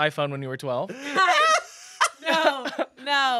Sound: laughs

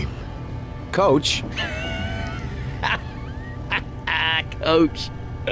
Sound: laughter

